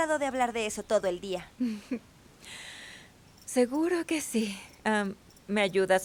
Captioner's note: Ríe y suspira